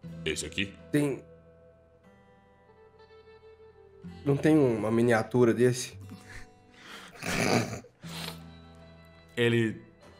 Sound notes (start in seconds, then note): 7.1 laughs